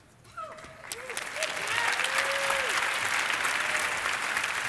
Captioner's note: audience applauding